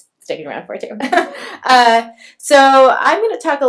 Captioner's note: laughs